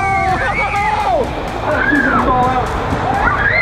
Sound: screaming

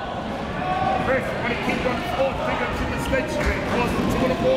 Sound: crowd talking

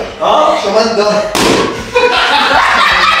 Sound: balloon pops; laughing

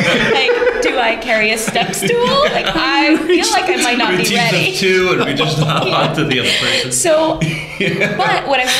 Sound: laughter

